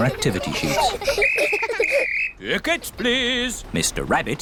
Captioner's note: blows whistle